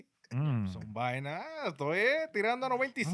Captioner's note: speaking In Foreign Language